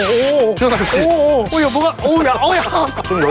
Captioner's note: spraying